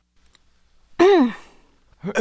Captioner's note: cough